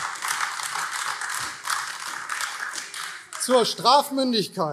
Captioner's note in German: Beifall AfD